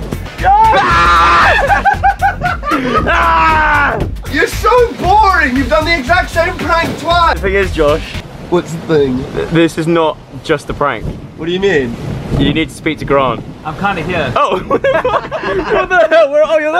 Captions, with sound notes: Your so boring you've done the exact same prank twice The thing is Josh. Whats the thing? This is not just a prank. What do you mean? You need to speak with Grant. I'm kinda here. Oh *everyone laughs* What the hell- Where? Oh your there!